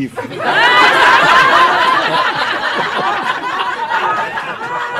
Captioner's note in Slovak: Smiech